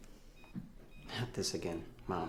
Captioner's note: microwave beeping